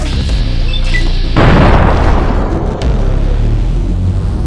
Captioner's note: bang!